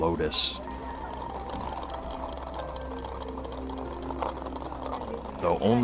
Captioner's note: gentle music; wheels rattling